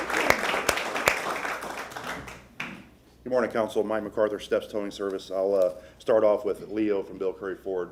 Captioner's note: applause